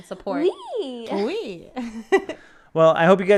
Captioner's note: speaking in foreign language